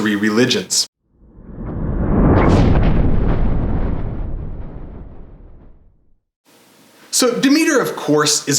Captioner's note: thunder